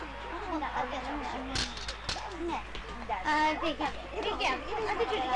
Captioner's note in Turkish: Okul bahçesi ortam gürültüsü, öğrencilerin mırıltıları